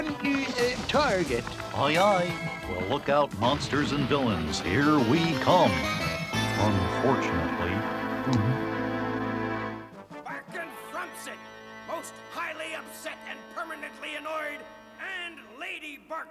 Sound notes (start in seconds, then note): 8.2 gulps